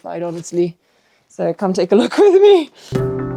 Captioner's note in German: lacht; Spannungsmusik